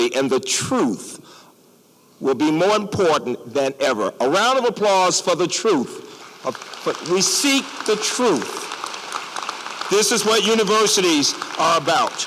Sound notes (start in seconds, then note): 6.1 applause